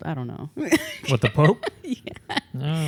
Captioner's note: laughs